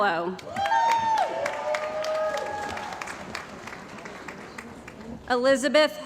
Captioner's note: cheering & Applause